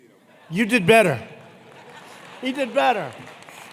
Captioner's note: laughter